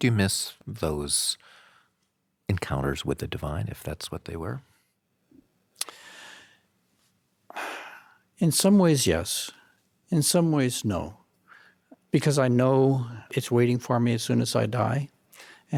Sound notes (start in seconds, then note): 5.8 inhales loudly; 6.6 exhales loudly